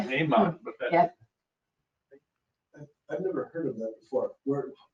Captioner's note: speaking faintly